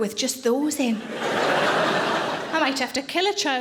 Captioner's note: audience laughing